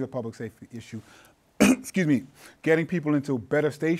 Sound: coughs

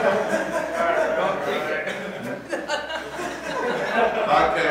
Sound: students laughing

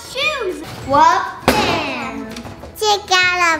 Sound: stomps

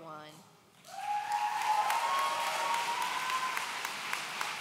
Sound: audience cheering

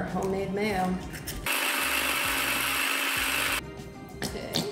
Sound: food processor buzzing

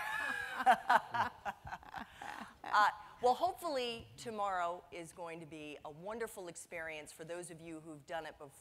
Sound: laughing

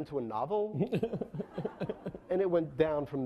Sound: laughing

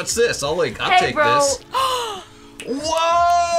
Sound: gasps

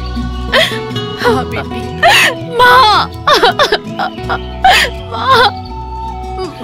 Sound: crying

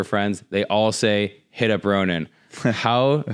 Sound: laughs

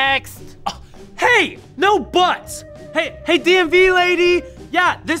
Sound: scoffs

